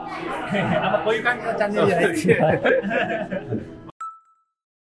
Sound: laughing

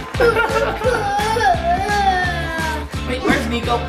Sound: laughs; cries

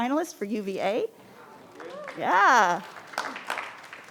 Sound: crowd clapping

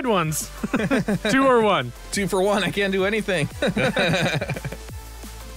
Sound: laughs

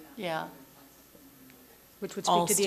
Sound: murmurs

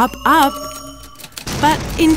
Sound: explosion

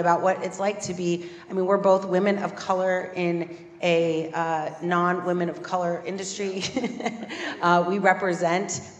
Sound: laugh

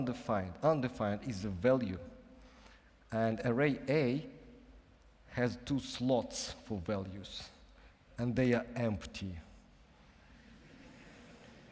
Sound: laughter

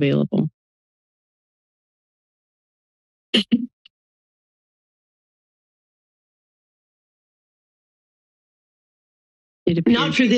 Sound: silence

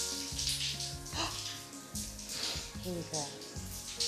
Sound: gasping

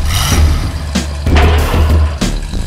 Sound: engine revs; slam

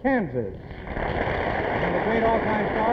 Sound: applause

